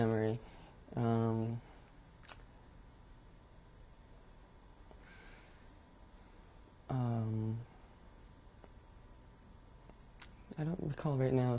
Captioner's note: pauses for 10 seconds